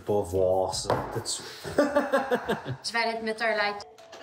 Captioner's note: laughing